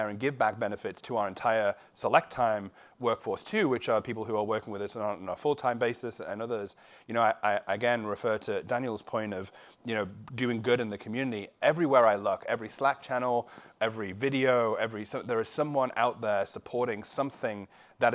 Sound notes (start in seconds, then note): none